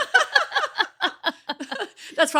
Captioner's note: laughs